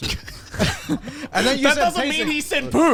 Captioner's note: laughs